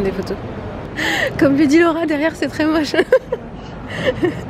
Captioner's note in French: rires